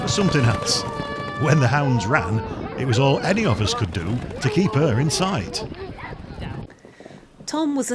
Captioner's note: hunting horn